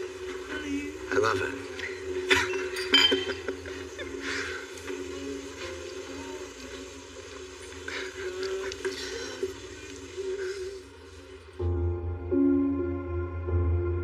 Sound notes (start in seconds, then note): 2.3 Chad chucuckles